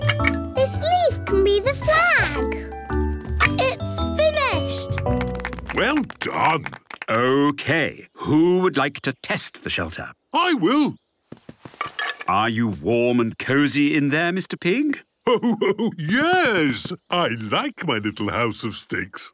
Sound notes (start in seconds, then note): 4.7 applause